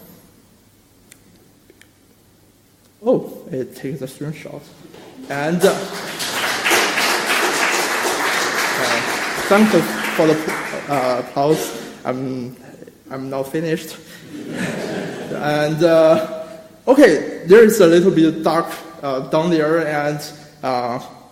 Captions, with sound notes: take a screenshot. It takes a screenshot and. (audience clapping) Thank you for the applause I'm not finished. And okay there's a little bit dark down there